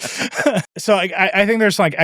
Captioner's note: laugh